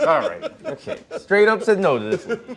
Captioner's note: laughter